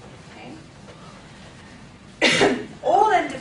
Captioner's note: coughing